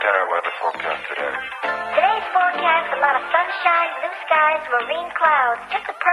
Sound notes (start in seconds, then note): 0.1 upbeat music; 0.9 deep Voice; 2.2 high-Pitch Voice